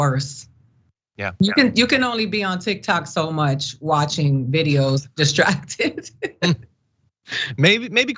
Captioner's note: laugh